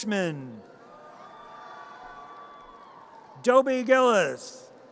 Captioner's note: audience cheers